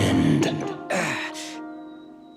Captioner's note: sighing